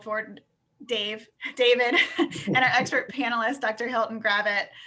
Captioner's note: chuckles